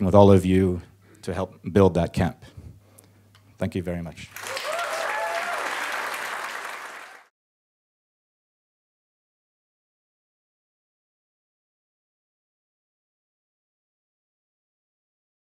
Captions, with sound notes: with all of you to help build that camp. Thank you very much. (applauding)